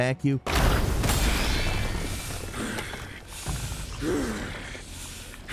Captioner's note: rocks crumbling; creature snarling